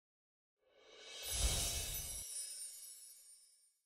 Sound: screen whooshing

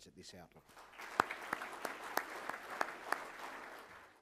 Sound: applause

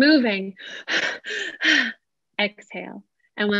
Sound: heavy breathing

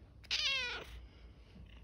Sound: cat meows louder

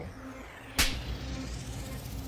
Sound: slapping sound

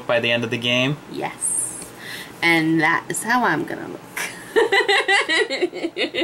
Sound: laughs

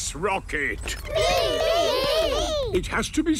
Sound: calling out in turn

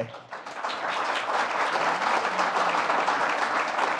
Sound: applause

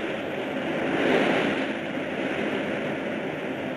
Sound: speaking in foreign language; waves crashing

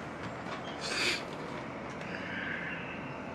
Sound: none

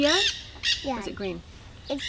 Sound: parrot squawk

